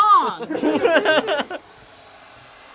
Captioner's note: all laugh; accordion hisses